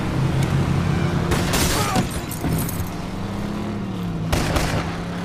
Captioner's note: gun firing; window shattering; gun firing